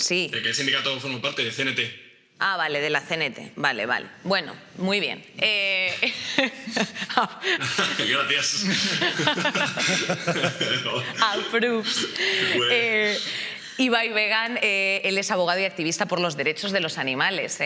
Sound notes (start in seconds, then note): 7.2 laughs; 8.7 he laughs